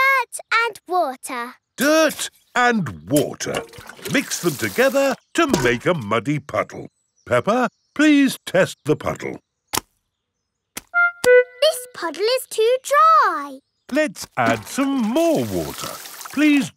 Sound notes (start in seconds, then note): none